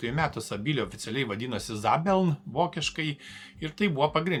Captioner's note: in German